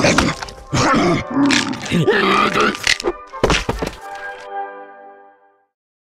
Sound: heinous head munching sounds

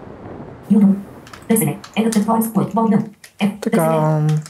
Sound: software sound, searching for a file

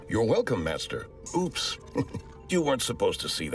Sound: chuckles

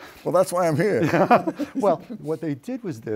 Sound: laughs

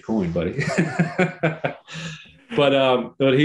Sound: both laughing

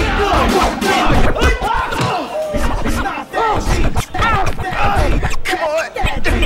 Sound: record scratching

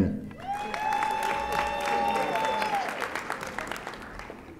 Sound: audience applauding

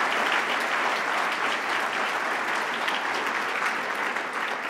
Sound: applause

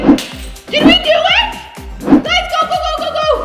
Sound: yells

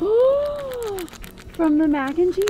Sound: gasps

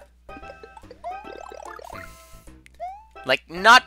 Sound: breathing

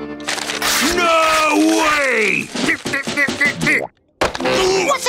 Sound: grumbling

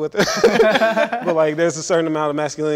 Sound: all laughing

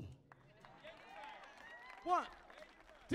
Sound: audience clapping softly; speaks faintly

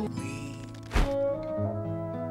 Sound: swoosh Sound

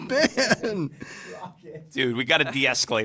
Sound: director laughing

